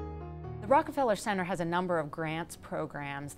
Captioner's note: voiceover